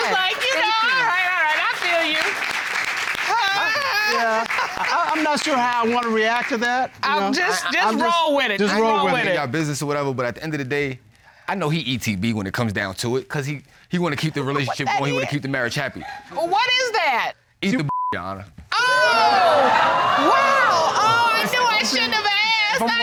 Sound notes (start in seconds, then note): 2.4 audience applauding